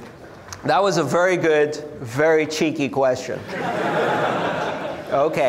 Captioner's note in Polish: Śmiech